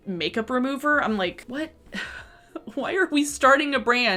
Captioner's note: chuckles